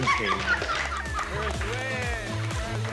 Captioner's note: laughing